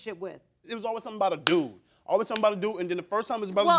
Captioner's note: smacking hands